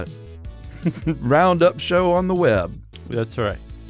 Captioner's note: chuckles